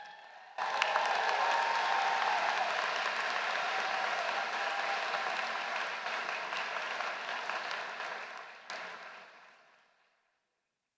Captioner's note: applause